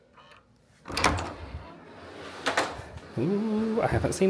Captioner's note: door knob clacking